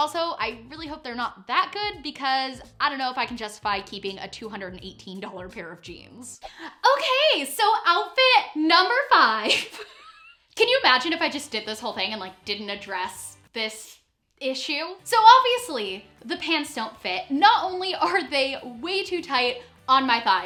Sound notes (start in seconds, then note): 9.5 laughing